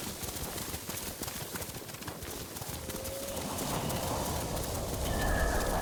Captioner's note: thunder rumbling